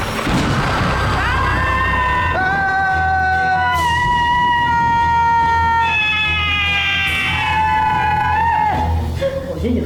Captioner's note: screams